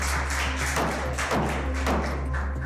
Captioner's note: gavel pounding